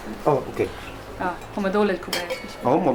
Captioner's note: non-english speech